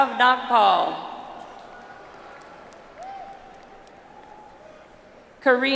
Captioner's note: audience applauds